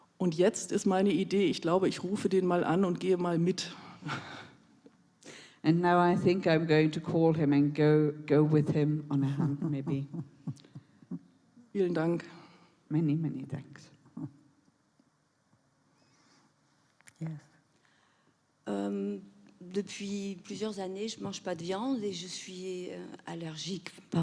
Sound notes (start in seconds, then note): 0.1 in German; 11.6 in German